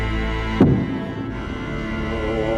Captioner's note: thumps